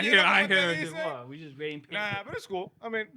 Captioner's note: speaking In Foreign Language